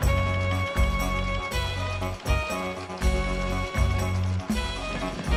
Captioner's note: printing press rattling